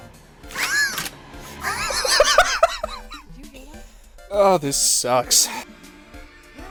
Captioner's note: wheezing hysterical laughter